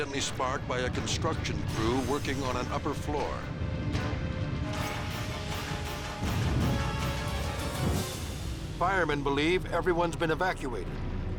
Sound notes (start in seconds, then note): 6.0 dramatic orchestral music; 6.1 fire roaring